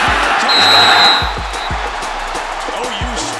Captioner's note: whistles